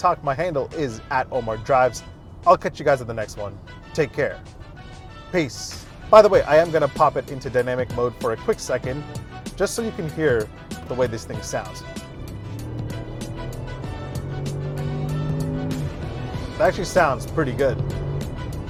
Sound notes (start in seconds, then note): 12.8 engine rumbling